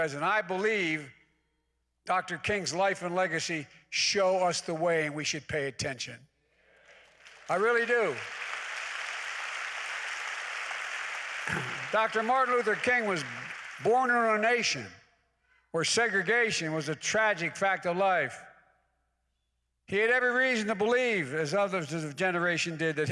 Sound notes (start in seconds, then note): 9.9 applause